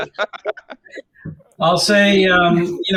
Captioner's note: all laughing